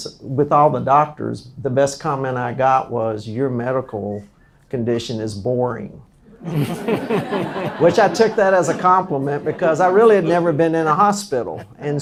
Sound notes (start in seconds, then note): 6.3 laughs